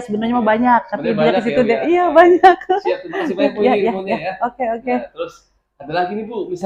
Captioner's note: laughs